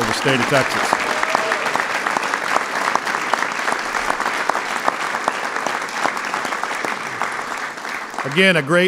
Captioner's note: applause